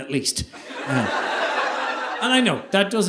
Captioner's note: audience laughing